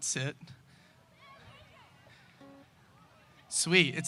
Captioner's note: audience shouts